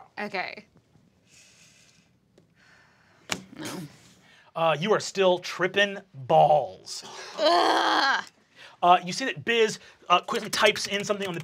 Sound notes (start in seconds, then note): 7.1 groans